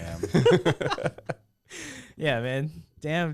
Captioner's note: laughing